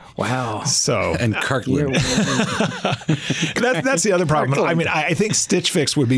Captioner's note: laughs